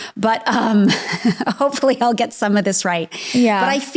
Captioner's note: laughs